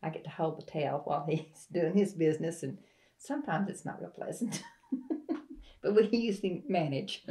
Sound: laughs

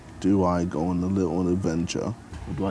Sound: none

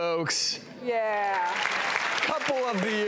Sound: audience clapping

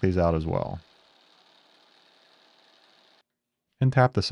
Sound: drill whirring

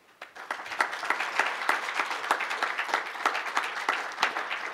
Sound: applause

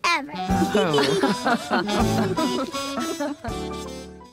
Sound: all laughing

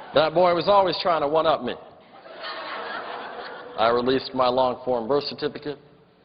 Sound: laughter

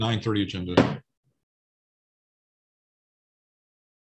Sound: bangs the gavel

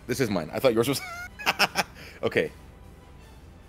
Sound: laugh

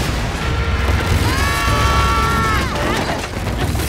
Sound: both screaming

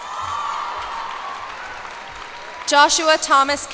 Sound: cheers and applause

